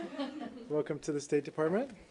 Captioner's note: laughter